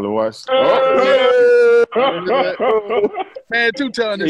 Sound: laughter

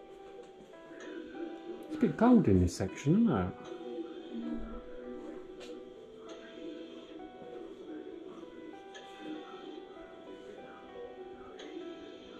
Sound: radio noise in background

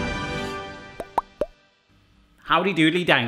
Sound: triumphant music; popping

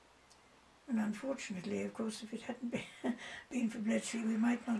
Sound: laughs

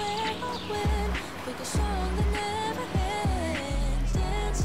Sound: humming

